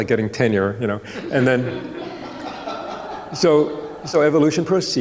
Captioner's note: audience laughing